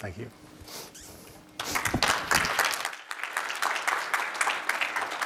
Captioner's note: applause